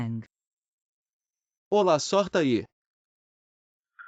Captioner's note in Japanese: 英语